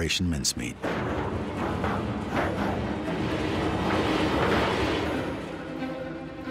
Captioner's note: submarine going through the water; violin music